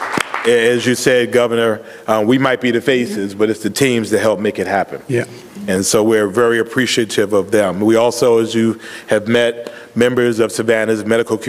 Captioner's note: applause